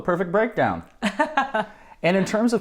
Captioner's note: laughs